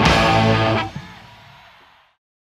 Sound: crowd cheering

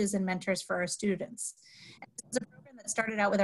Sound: audio cuts out

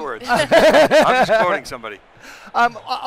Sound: laughter

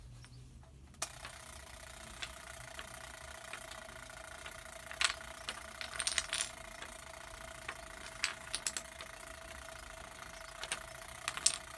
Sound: the timer is ringing

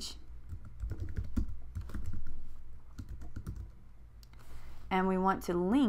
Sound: typing

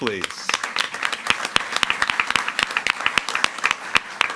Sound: audience applauding

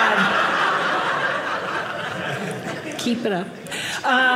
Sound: audience laughing

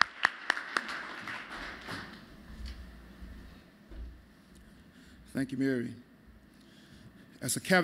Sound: applause

